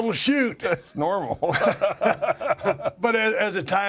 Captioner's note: laugh